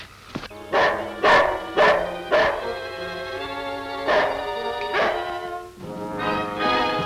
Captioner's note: suspenseful orchestral music; Devil barks; desperate orchestral music